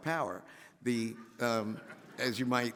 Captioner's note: audience laughs